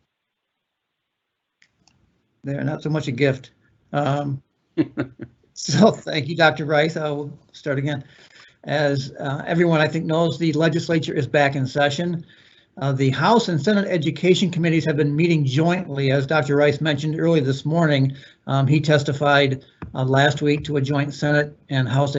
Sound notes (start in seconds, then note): 4.8 chuckling